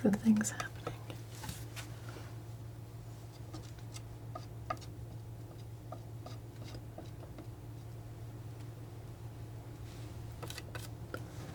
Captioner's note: tapping